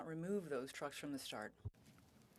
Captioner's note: speaking French